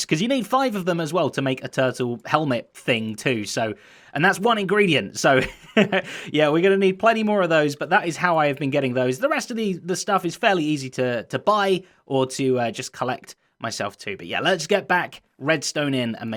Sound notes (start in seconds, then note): 5.3 chuckles